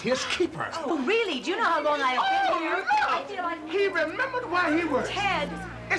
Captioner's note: shouting